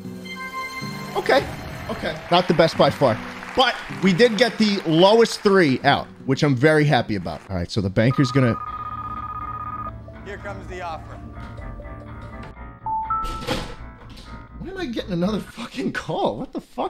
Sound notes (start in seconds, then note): 8.0 phone ringing